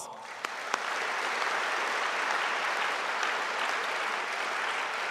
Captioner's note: audience applauding